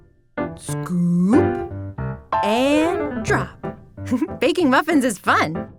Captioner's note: giggles